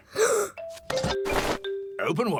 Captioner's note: gasps